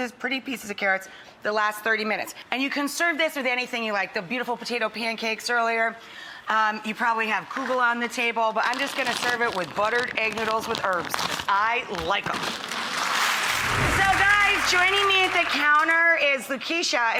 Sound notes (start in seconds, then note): 12.9 audience applauds